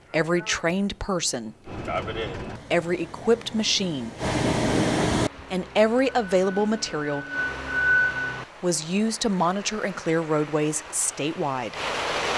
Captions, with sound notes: Every trained person, "copy that" every equipped machine, (engine roars) and every available material (machine beeping) was used to monitor and clear roadways statewide.